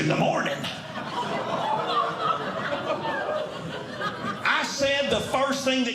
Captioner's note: audience Laughing